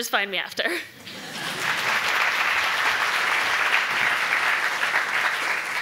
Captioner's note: audience applauding